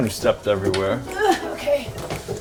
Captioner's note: grunting